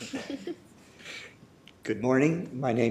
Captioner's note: laughter